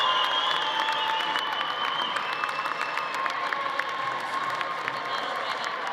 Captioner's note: audience applauding